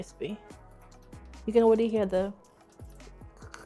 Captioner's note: imitates garlic crackling